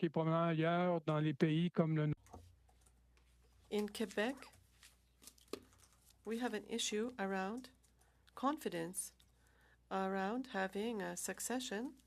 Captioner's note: speaking French